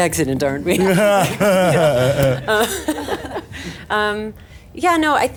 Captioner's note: laughing